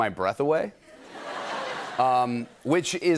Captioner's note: laughter